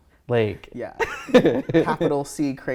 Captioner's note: laughing